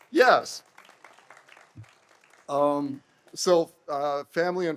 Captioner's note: audience applauds